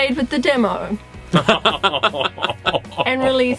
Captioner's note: laughter